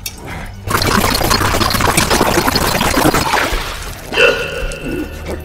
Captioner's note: imperial slurping